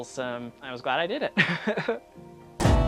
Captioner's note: laughs